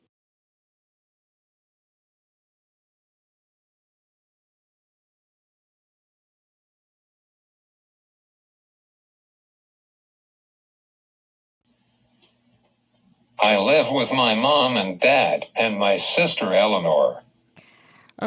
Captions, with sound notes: - [Voiceover] I live with my mom and dad and my sister Eleanor.